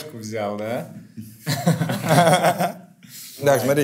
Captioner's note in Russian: смеются